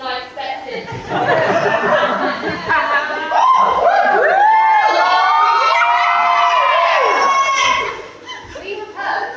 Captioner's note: whoops and cheers